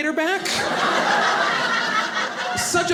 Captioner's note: audience laughing